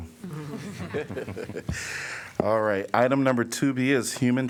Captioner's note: laughter